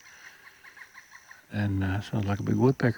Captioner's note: bird calling